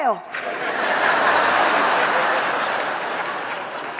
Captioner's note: audience laughs